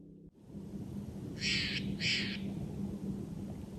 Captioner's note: Sound of Steller's Jay calling